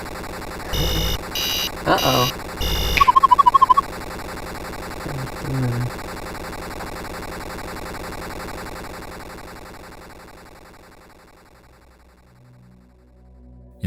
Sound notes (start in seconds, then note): 0.6 alarm buzzing; 3.0 warbling sound; 12.2 mysterious music